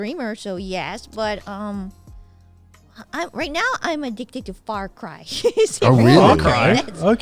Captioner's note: laughs